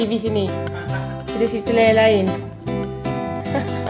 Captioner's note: laugh